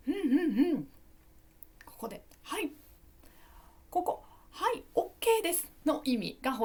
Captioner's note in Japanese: 咳払い